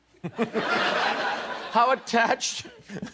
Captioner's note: laughter